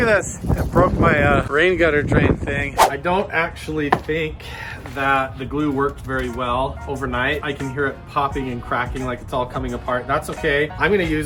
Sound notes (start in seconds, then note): 2.7 swooshing